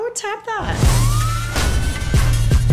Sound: siren wails

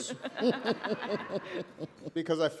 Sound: laughter

